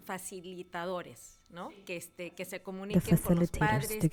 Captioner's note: member speaking in Spanish